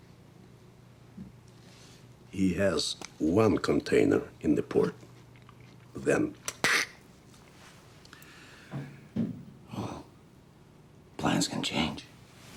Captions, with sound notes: - He has one container in the port, then (cheek squeaks). - Well, plans can change.